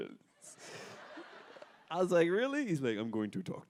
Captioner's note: audience laughter